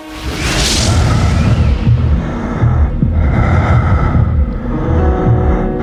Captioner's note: breathing heavily